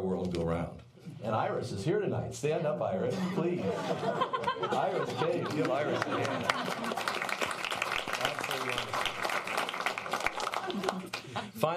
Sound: applause

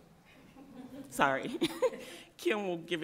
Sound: laughter

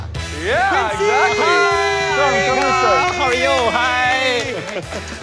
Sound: all cheering

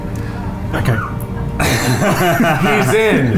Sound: all laughing

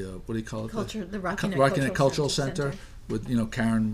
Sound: voiceover

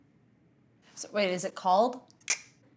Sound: clicks mouth

